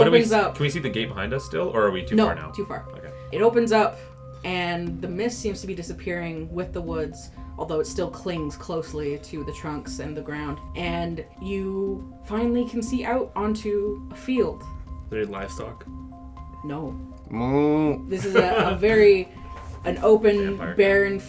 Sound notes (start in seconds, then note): 17.3 moos; 18.1 laughs; 19.6 very quietly, sneakin in those jokes